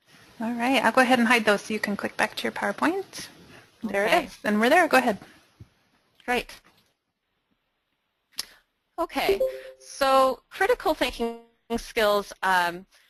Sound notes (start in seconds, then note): 9.3 beep; 12.5 beep